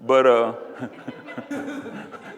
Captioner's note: audience laughs